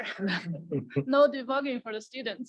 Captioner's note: panelists laugh